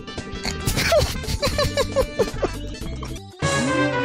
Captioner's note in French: rire